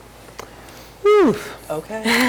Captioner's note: breathes